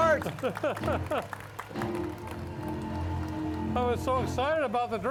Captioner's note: laughing